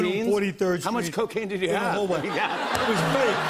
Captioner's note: laughter